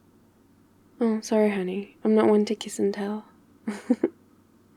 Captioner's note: laughs